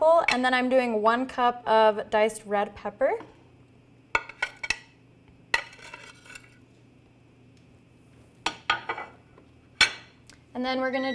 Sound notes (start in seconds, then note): 3.4 knife clanking on plate